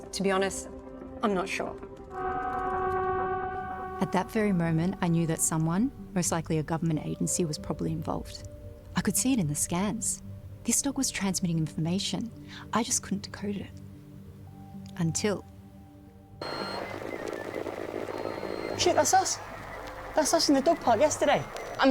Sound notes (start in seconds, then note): 2.2 quizzical music; 16.4 computer beeping and whirring